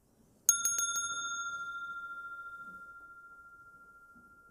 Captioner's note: rings the bell